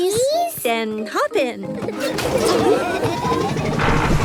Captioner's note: laughing